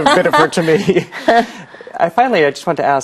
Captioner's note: laughs